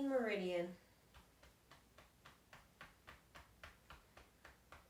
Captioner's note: thumping